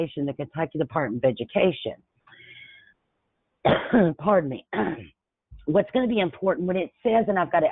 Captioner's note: coughs